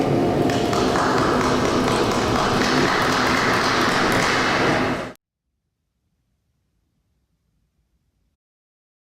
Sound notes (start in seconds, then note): 0.5 clapping